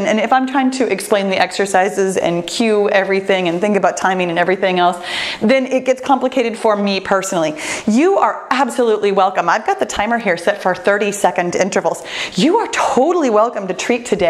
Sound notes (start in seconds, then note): none